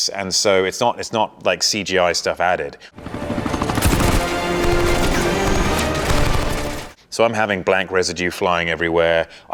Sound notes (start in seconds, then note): 3.0 dramatic music; 3.0 machine gun cracking